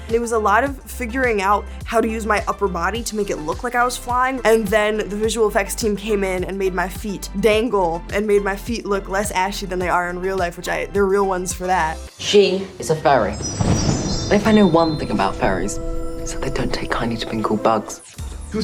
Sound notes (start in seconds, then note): 13.2 magical chimes; 13.3 thunder